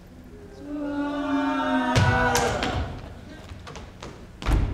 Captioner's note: group groans